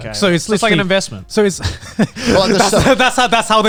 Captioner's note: group laughs